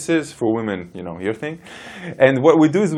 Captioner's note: laughs